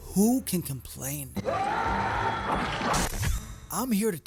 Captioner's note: screams